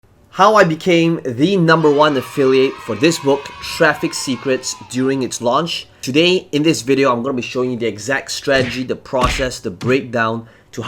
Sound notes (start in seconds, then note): 1.4 cheering